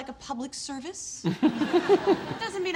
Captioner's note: audience laughs; laughs